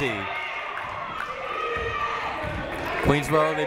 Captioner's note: people shouting in the crowd